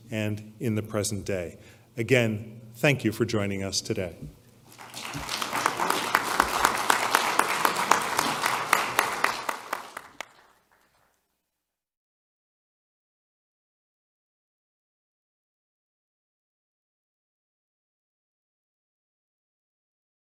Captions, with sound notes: And in the present day. Again, thank you for joining us today. [APPLAUSE]